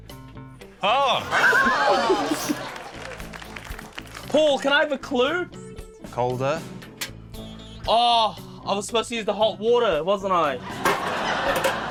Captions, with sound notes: - Oh! - (LAUGHS) (APPLAUSE) Paul, can I have a clue? - Colder. - Oh! I was supposed to use the hot water, wasn't I?